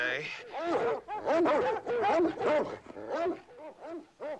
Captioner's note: barking